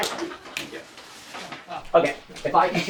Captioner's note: laughter